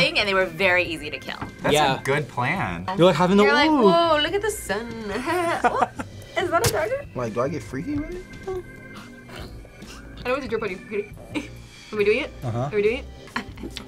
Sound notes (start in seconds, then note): 5.0 both laugh